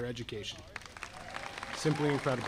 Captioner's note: audience applauding